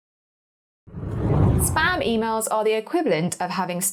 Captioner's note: air whooshing